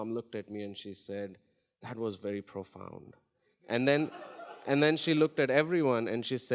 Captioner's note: audience laughs